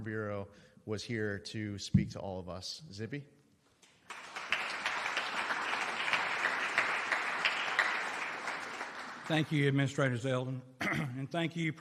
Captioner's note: applause